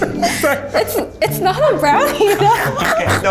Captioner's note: laughs